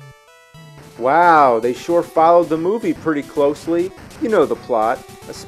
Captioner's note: sarcastically